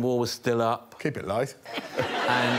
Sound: audience laughing

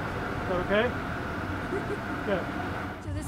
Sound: laughing

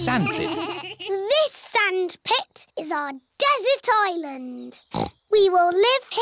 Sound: snorts

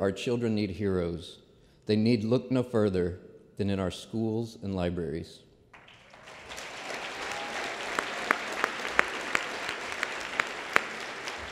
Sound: applause

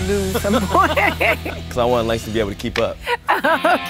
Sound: laugh

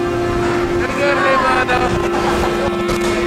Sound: chatting in Hebrew

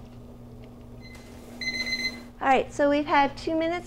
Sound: timer beeping

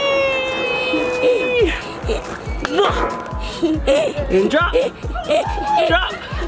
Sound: laughs

